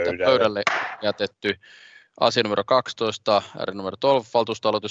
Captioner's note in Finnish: nuijan kopautus